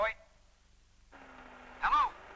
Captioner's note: sound of static